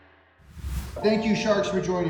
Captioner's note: wind blowing; air whooshing